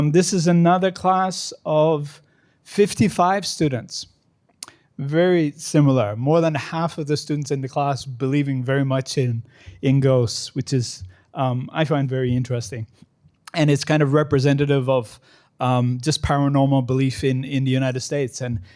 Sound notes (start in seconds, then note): none